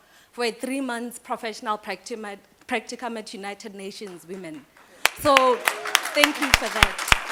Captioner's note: applause